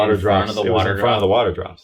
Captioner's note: overlapping chatter